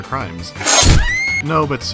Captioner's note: sound of chopping guillotine and a woman's scream